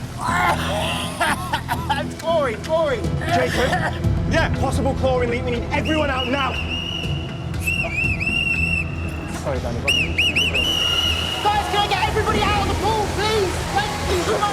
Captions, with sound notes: (VIOLENT COUGHING) It's chlorine! Chlorine! - Jacob? - Yeah. Possible chlorine leak. We need everyone out now. (LIFEGUARD BLOWS WHISTLE REPEATEDLY) Guys, can I get everybody out of the pool, please? Thank you!